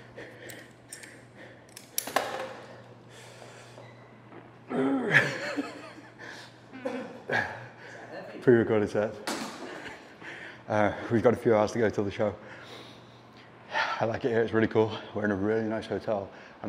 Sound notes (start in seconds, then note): 4.7 grunting; 8.2 laughs